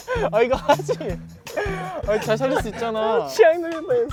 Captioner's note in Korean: 꺼이꺼이